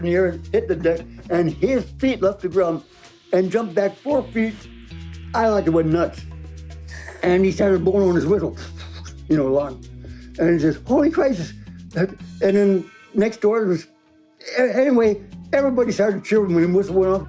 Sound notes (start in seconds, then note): 7.1 laughing; 8.8 imitates whistle